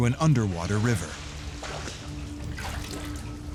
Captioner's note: sloshing and splashing